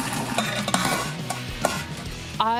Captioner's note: metal clinking